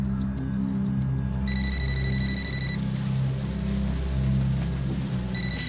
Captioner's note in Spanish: Suena celular